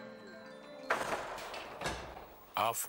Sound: doors closing

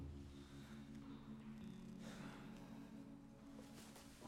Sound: sighing

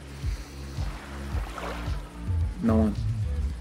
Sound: water sloshing

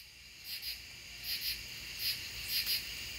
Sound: crickets

